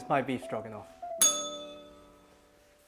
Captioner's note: bell rings